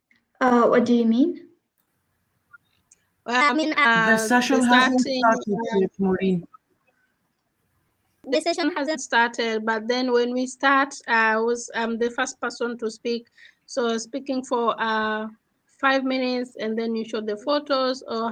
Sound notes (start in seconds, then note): 2.2 chatter